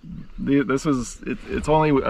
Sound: chuckling

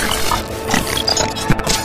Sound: glitching

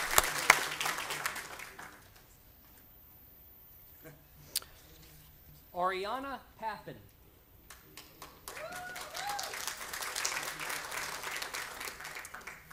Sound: applause; applause

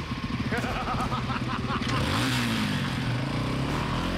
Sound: evil laughter

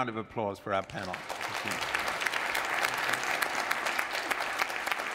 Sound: audience applauds

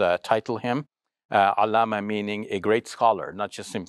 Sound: speaks Arabic

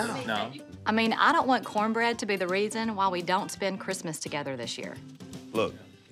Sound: none

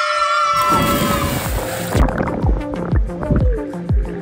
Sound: everybody excitedly yelling; water splashing; cool house music

